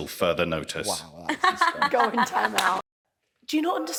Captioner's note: laughing